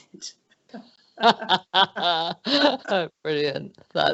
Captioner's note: both laugh